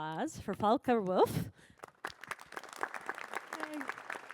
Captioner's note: applause